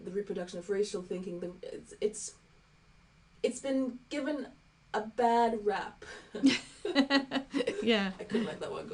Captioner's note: laughing